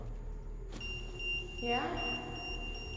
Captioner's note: EMF beeping